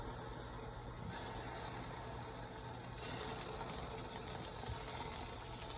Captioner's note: ASMR of grilling tofu